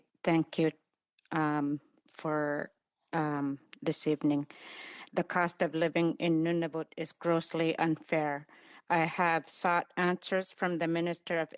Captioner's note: speaking Indigenous Language